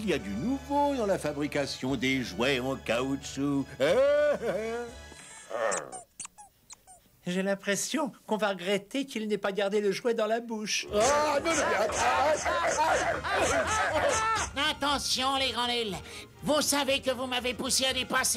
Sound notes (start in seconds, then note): 3.8 laughs; 9.2 chomping; 9.2 grunting